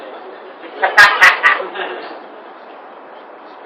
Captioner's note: laughter